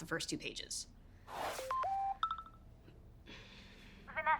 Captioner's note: phone Dings